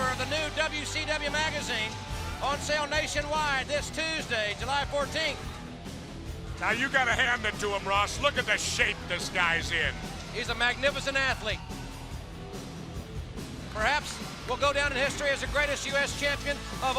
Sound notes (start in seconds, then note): 14.4 crowd chatter